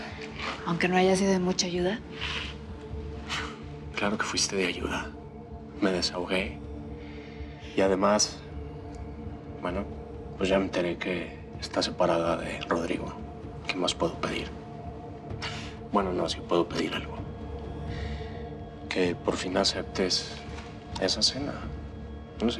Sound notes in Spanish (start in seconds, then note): none